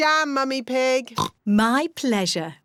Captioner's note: oinks